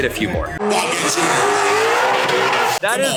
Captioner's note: engine revving